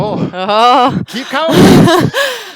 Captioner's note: laughs